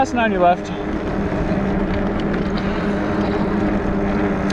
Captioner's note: wheels whirring